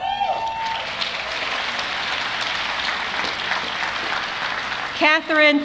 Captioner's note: applause